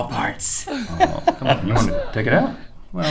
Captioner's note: laughter